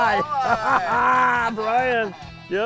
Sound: laughing

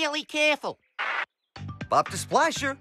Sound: walkie-Talkie Crackles

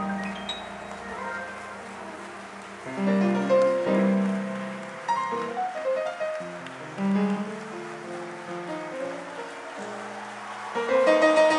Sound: applause

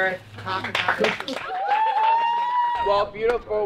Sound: crowd applauding

